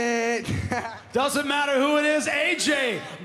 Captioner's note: laughs